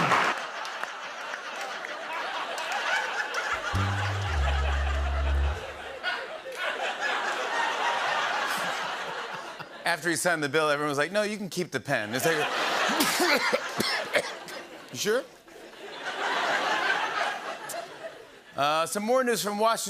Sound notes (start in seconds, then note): 0.0 laughter; 3.5 sad tuba; 5.6 laughter continues; 12.1 laughter; 13.7 coughing; 15.4 laughter